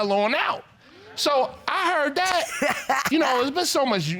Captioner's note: laughs